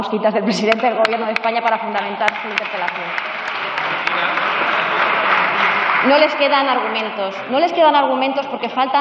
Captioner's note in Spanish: Aplausos